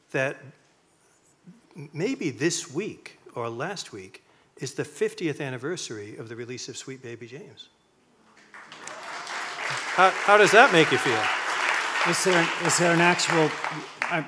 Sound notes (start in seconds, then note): 8.4 audience clapping